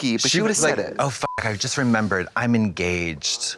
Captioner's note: beep